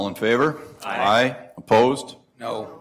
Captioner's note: multiple voices